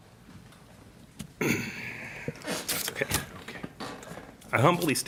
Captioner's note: clears throat